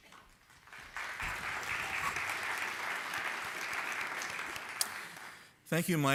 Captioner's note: applause